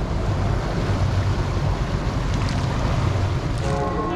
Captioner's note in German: Wasserwellen